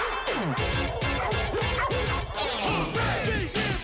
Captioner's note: beeping